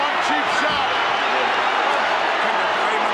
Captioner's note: audience booing